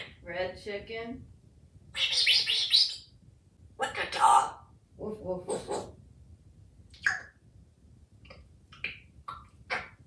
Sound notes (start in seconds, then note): 1.9 whisper sounds; 7.0 eating sounds